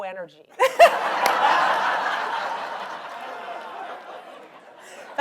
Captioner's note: audience laughs